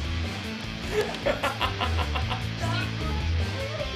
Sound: laughs

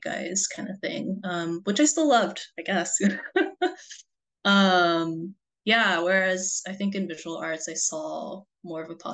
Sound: laughs

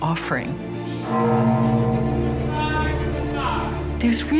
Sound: gong bellows

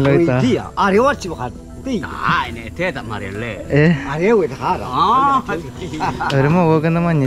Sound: men speaking in Mentawai language

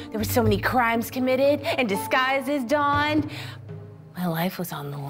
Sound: none

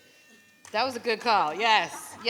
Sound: phone vibrates

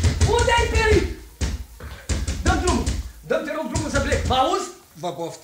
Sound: knocking at the door

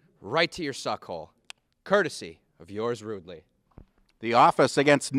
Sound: clicks tongue

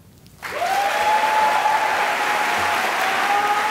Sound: cheering and applause

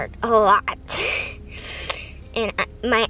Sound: sniffling

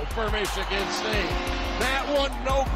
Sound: goal horn blares

